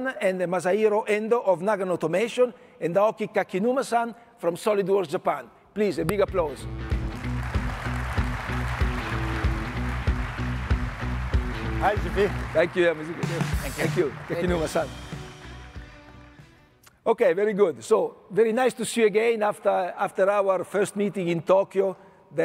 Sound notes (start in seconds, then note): 6.7 audience applauding; 7.0 upbeat music